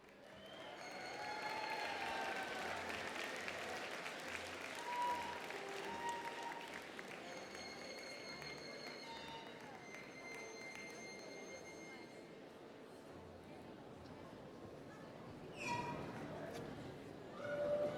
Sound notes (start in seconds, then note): 0.0 applause